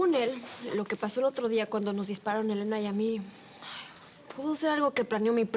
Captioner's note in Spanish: none